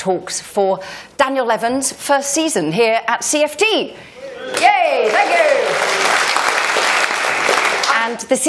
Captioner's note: applause